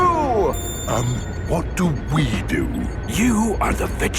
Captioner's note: whispering